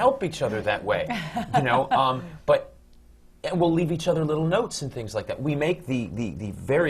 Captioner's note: laughs